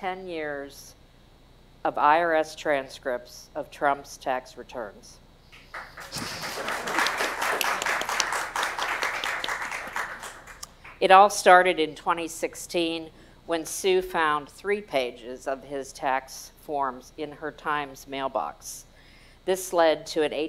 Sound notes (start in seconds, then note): 11.5 applause